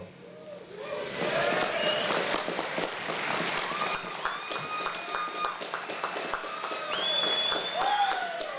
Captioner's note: applause